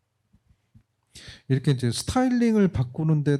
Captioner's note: speaking korean